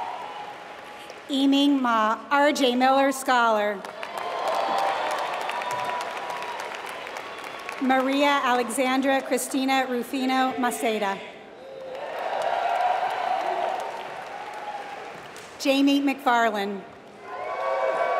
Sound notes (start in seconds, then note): 3.7 applause